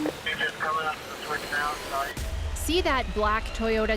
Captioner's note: officer on radio